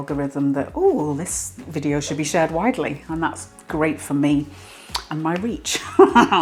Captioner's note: laugh